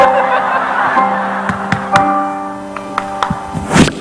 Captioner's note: chuckling; clapping hands; Don clapping hands; clapping hands